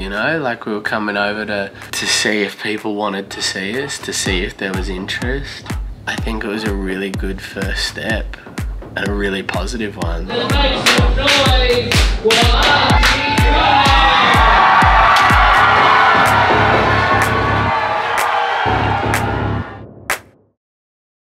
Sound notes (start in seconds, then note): 10.6 clap; 15.5 crowd cheers